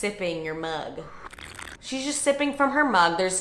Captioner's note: sipping